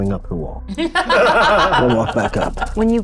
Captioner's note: participants laughing